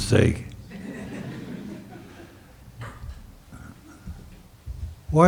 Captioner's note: audience chuckles